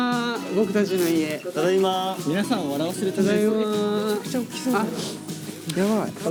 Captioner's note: bustling & laughing after reaching the dorm